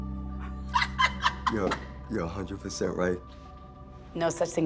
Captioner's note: Theresa laughing